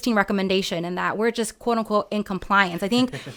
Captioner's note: laughs